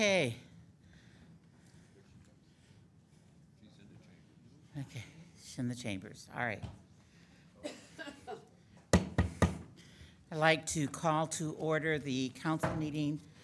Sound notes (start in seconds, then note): 9.0 gavel banging